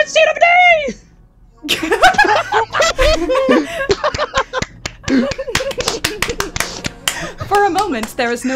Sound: laugher followed by applause

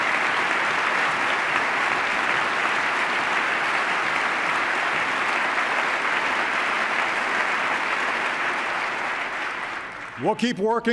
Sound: applause

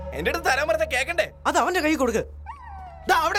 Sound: dog howls

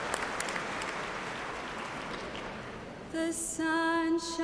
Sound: cheers and applause

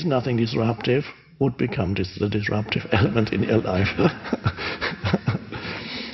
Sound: laughs

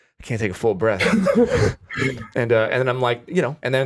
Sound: laughs

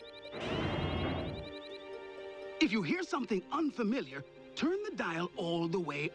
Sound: mechanisms whir

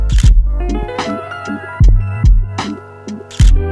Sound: camera shutter clicks

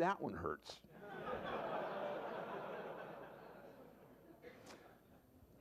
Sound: laughter

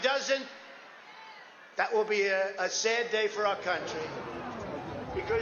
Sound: cheering

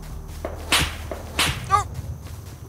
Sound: gun shots

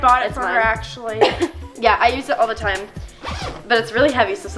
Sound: coughs

